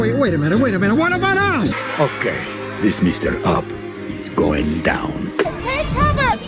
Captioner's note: spit